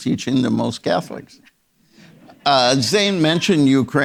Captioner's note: audience members laughing